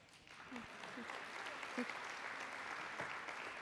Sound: applause

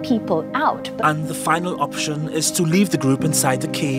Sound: voiceover

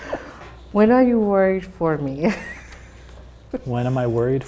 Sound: both laugh; laughs

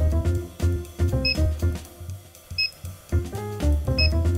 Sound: scanner beeps

